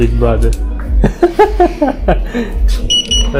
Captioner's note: laughing